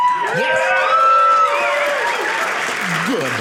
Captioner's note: audience cheering